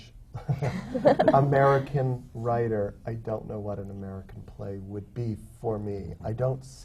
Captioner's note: laughter